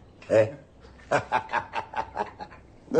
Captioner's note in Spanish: Risas